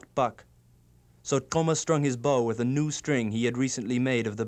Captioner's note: non-english speech